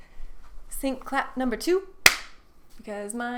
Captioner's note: clap